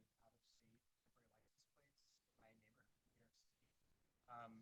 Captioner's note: faintly speaking